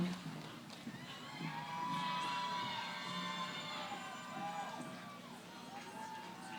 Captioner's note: cheering